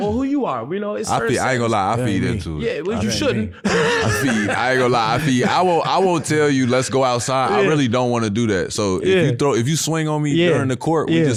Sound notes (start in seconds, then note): 2.8 laughs